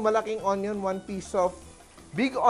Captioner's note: sizzle